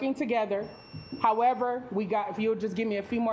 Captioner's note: alarm beeping